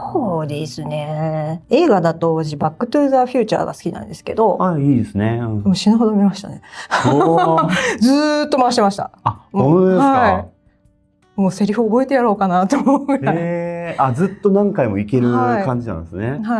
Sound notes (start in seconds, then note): 6.9 laughs